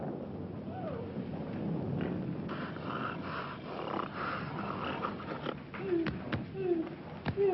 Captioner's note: thunder; gasps; snorting; grunting; whimpering